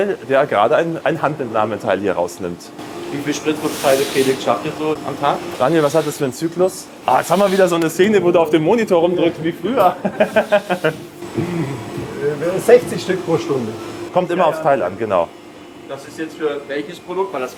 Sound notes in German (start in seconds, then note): 9.8 gelächter